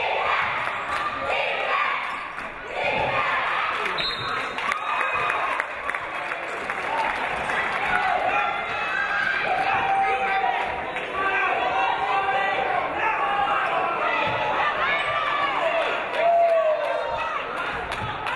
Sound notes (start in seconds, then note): 3.9 referee blows whistle; 5.8 audience applauding